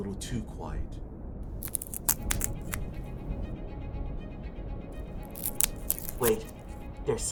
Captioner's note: breaking of twigs in the distance of the mist